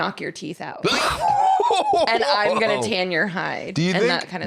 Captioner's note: laughing